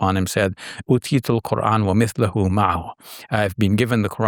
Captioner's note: speaking in a foreign language